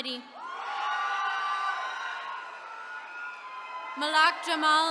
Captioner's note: attendees cheering